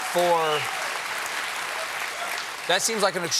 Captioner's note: applause